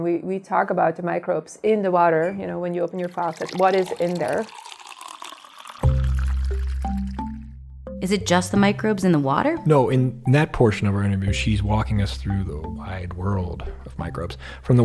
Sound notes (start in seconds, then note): 4.7 water rippling; 6.8 bouncy music